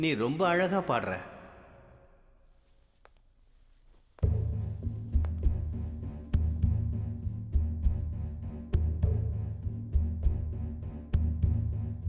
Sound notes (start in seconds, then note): 4.8 footsteps; 10.7 background music